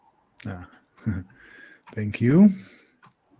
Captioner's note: laughs